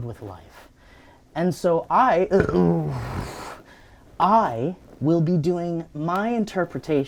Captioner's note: belches; sighs